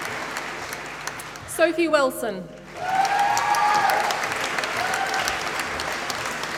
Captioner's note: applause